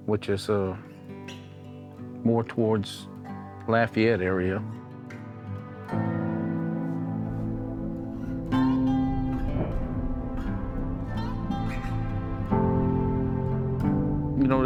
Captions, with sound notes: which is more towards Lafayette area. (thunder clapping)